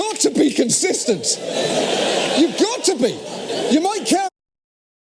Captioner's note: laugh